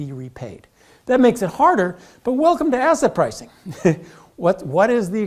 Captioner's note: laugh